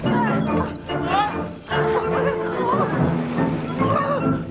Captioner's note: villager whining